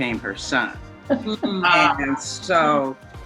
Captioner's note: host laughs